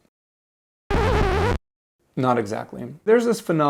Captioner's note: record screech…